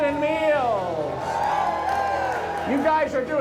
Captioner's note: crowd cheers